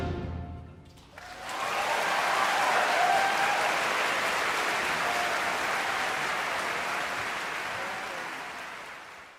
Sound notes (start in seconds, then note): 1.1 audience applauding; 1.1 audience cheering